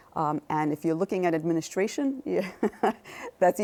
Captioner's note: chuckles